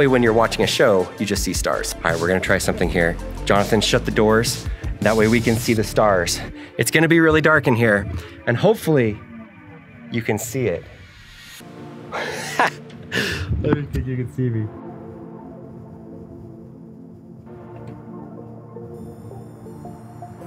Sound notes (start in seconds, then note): 12.1 laughs; 15.2 soft music